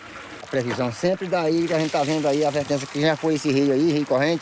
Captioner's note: Portuguese spoken audio